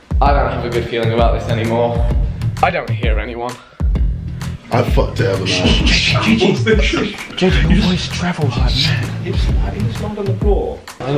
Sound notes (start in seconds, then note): 5.1 shushing